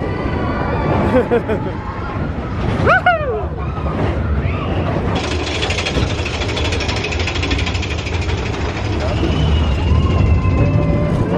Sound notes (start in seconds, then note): 0.9 laughing